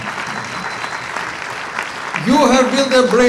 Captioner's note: applause